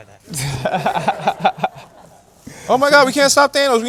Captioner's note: laughter